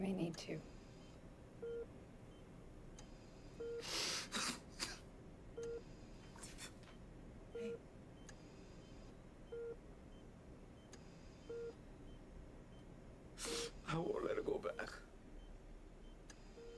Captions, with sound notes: - They may need to. (Darnell cries) Hey. - I won't let her go back.